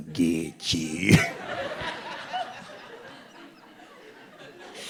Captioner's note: audience laughing